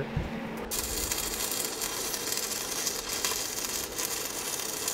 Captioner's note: welder sputtering